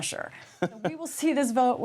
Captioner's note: laughter